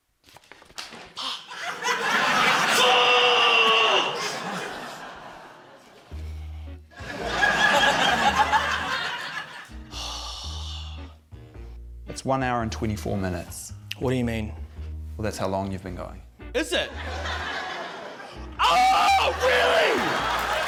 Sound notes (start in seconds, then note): 7.0 laughter; 9.9 sighs